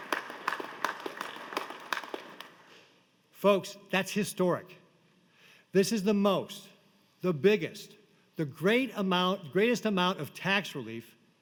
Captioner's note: applause